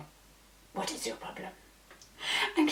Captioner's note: French accent